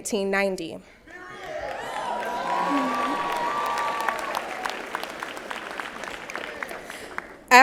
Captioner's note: applause and Cheers